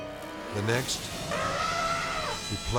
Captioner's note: elephant trumpeting